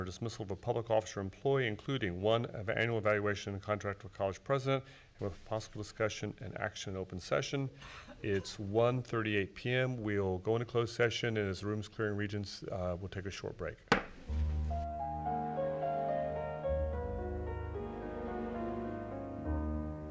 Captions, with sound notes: discipline or dismissal of a public officer employee, including one annual evaluation of the contract of college president with possible discussion and action open session. It's 1:38 p.m. We'll go into closed session. And as the room's clearing, regents, we'll take a short break. (gavel pounds)